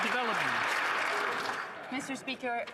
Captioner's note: some Applause